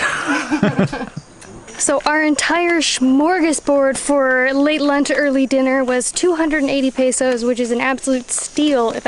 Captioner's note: laughs